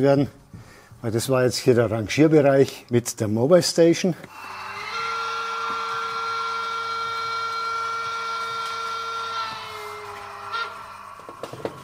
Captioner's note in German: langer Lokpfiff